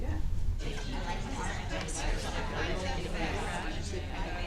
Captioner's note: crowd chattering